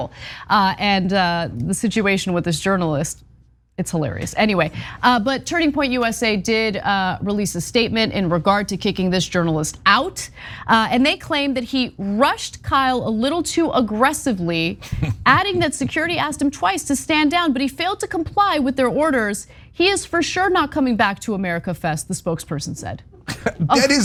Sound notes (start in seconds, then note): 14.8 laugh